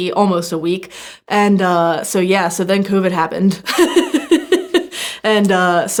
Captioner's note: chuckles